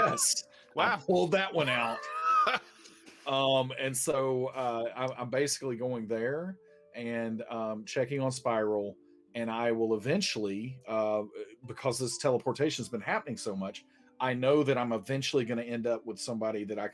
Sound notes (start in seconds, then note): 1.6 laughing